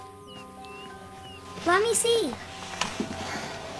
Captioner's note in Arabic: none